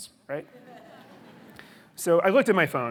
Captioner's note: audience laughing